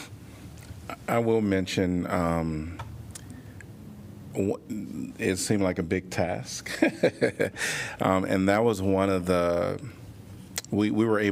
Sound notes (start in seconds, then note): 6.6 laughter